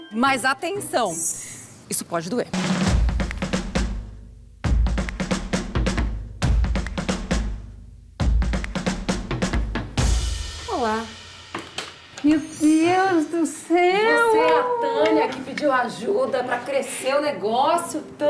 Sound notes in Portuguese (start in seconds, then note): 2.5 rufar de tambores; 8.9 rufar de tambores cessam; 12.2 emocionada